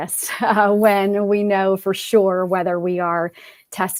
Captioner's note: laughter